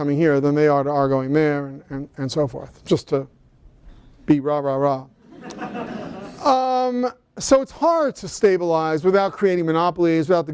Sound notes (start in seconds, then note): 5.2 laughter